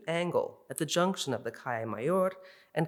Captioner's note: in Spanish